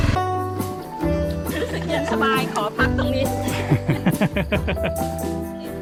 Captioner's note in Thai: เสียงหัวเราะ